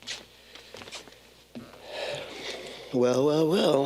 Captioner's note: person sighing